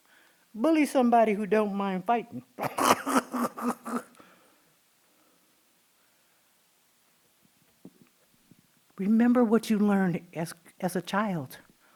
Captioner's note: laughing